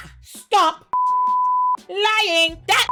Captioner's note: beep